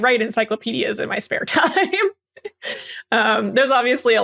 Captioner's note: laugh